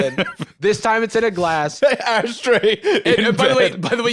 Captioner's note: laughing